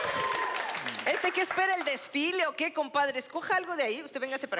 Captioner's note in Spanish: Exclamaciones